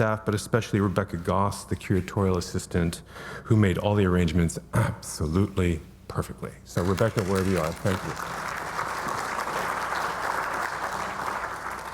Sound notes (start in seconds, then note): 6.8 audience applauding